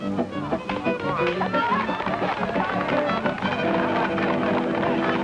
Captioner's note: audience applauding